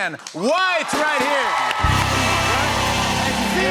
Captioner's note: cheers and applause